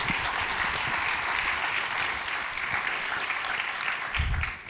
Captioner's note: audience applauding